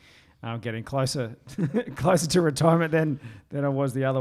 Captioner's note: laughs